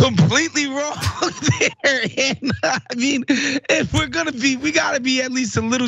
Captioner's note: laugh